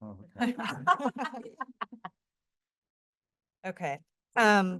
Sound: laughter

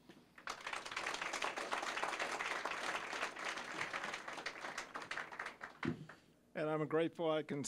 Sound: applause

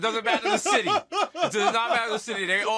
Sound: laughing

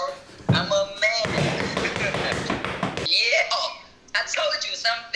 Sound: feet stomping

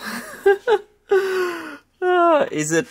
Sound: laughs

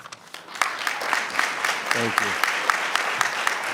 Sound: clapping

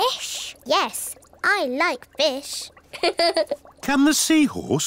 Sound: laughs

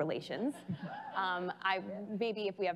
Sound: laughing

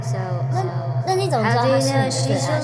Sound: speaks in Mandarin

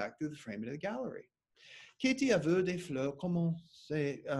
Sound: speaking French

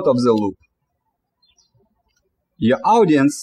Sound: birds chirping

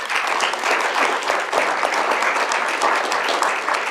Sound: applause

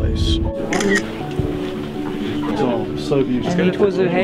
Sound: phone camera shutters

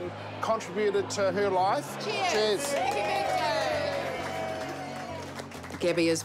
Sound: cheering, applause

